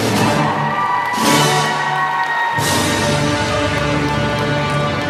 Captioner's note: applause